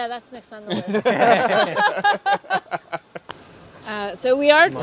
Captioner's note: all laughing